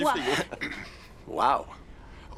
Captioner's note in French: Jake se racle la gorge